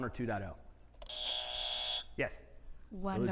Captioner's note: buzzer buzzing